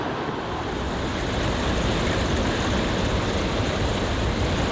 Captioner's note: wind rustling